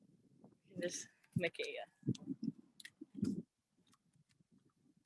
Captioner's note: speaking native language